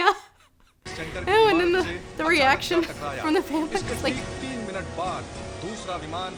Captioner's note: still laughing